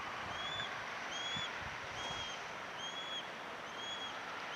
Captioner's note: birds squealing